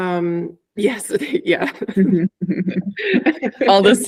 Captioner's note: laughing